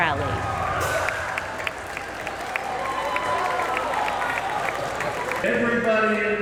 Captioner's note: cheering